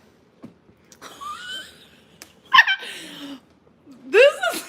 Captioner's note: laughing